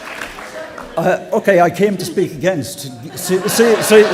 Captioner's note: applause